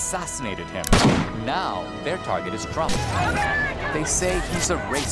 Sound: protestors chanting

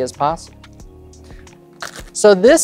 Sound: cards riffling

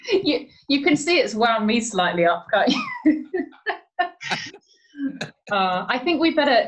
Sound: laughing

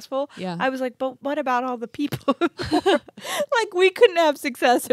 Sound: laughs

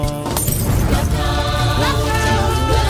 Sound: glass shatters

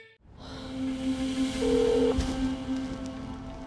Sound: phone ringing

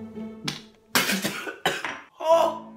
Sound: spitting; coughing

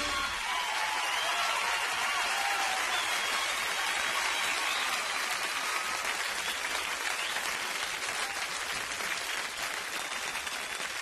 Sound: audience cheering

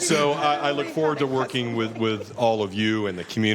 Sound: laughter

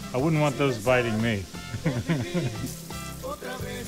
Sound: chuckles

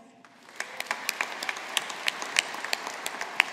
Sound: audience applauding

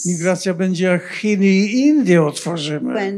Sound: foreign language

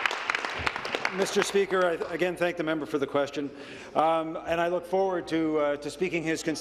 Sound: applause

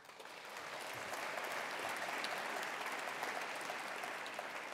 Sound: attendees applauding

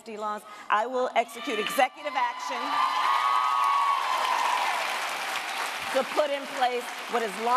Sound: cheers, applause

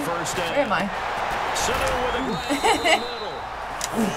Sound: laughs

